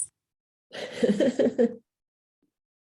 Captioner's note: laughs